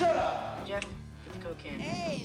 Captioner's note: snaps